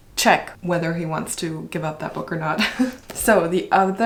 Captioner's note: laughs